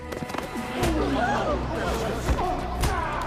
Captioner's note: crowd gasping